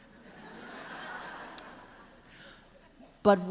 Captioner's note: laughter